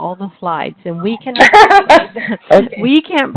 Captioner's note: laughs